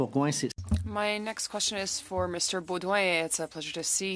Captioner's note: speaking FRENCH